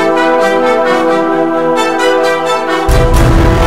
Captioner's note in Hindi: none